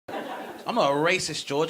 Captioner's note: audience laughing